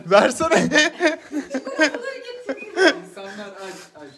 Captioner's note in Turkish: Gülüşmeler